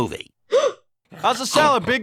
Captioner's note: gasps